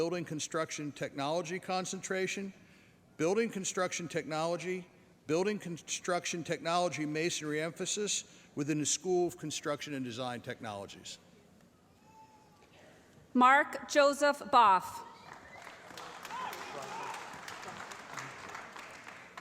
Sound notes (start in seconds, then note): 15.1 applause